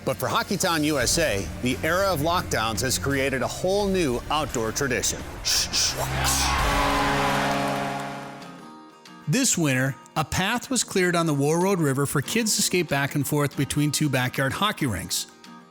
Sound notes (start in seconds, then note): 5.7 crowd cheering; 5.9 skating noises